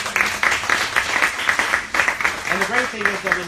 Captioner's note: applauding